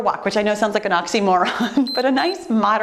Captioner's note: timer beeps